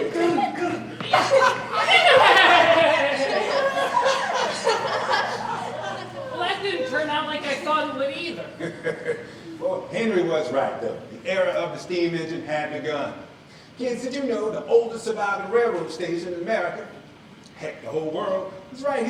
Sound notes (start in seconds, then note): 0.0 children laugh